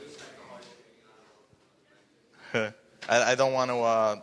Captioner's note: speaking faintly